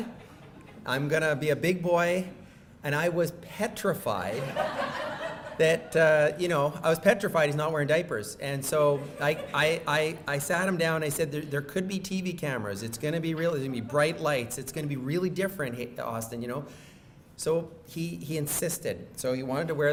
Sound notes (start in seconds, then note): 4.3 audience laughing